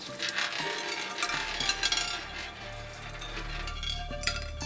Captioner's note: ominous whispers; marble rattling